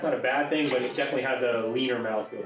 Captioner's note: wine splashing